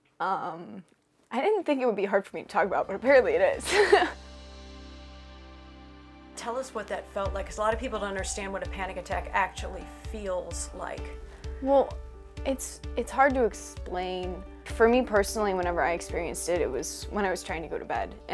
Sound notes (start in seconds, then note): 3.7 laughs